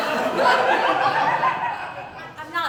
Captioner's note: laughter